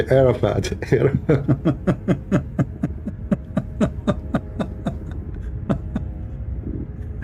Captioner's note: Ketawa